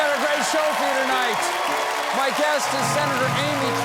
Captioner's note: cheers and applause